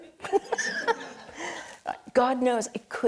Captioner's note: audience and panelists laughing